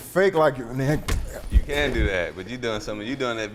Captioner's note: kick thudding